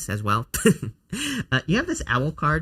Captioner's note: chuckles